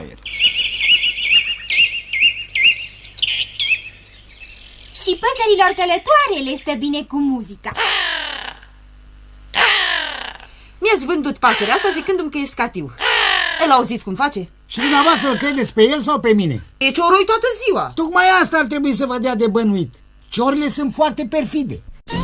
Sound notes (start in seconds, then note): 0.0 birds chirping; 7.7 crow cawing